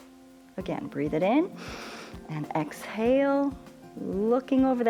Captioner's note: inhales